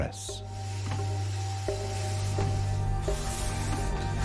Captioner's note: steam hissing; ominous orchestral music